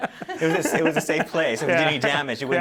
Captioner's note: laughter